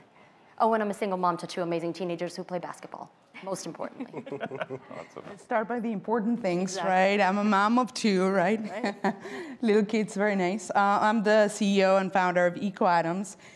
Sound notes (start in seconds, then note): 3.9 laughter; 8.7 laughs